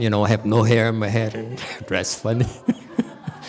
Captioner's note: laughs